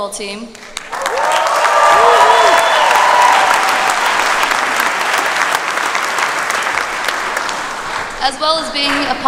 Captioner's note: applause